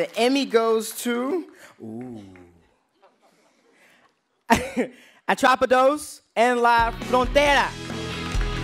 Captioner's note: applause